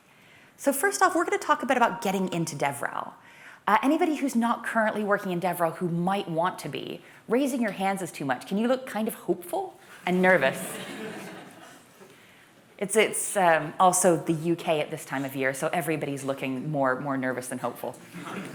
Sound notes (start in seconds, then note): 10.4 laughter